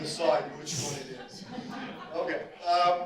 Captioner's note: audience laughter